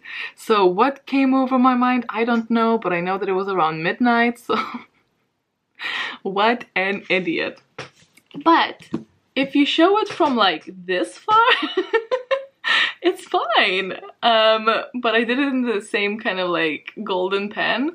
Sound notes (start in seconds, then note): 11.4 laughs